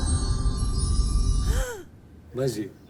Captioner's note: gasps